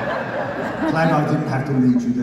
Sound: audience laughter

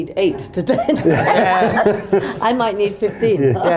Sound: laughter

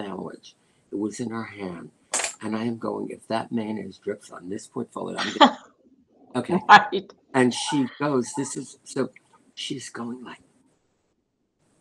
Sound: laughter

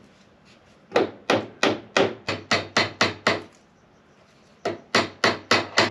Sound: hammering

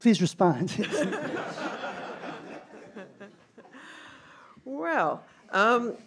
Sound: all laughing

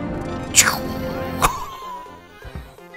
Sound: laughs

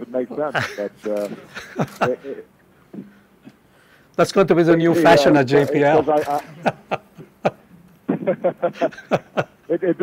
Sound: laughter

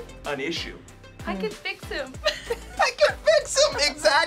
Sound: laughs

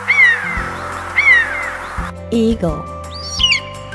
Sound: eagle sound

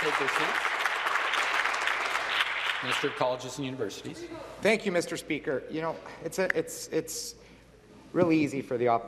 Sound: some Applause

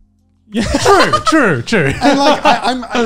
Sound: laughs

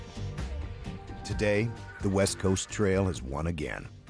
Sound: voiceover

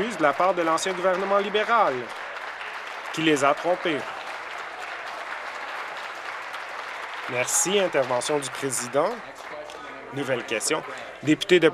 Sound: applause

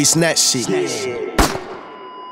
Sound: gunshot

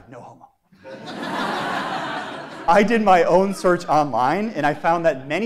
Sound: laugh

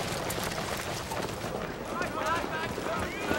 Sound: chatter and clatter

